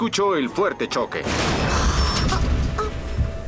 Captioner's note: crash!